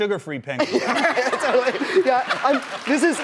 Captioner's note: laughing